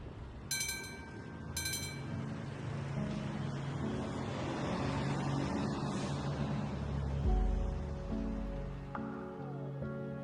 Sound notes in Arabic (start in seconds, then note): 0.5 صوت جرس العربة; 7.5 موسيقى لطيفة